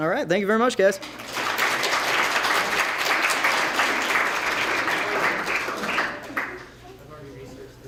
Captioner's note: applause